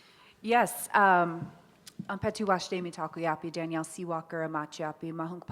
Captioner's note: speaks Lakota